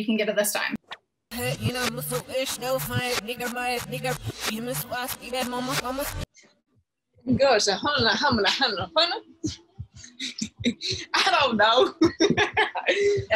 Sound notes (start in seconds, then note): 1.3 reversed audio; 10.0 laughs; 11.8 chuckles